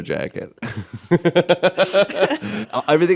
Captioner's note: laughing